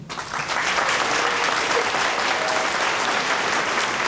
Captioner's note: audience applauding